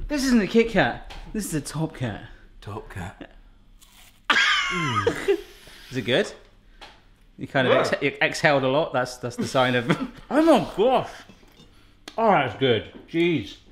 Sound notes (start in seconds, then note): 3.8 crunching